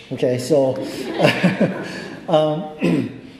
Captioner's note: crowd chuckles